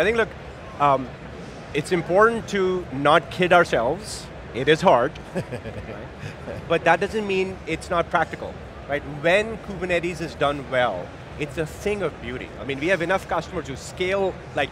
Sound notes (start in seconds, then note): 5.2 laughs